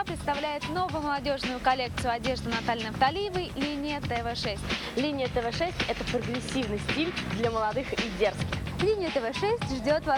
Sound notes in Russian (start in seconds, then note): none